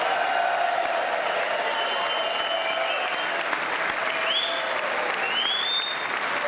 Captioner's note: applause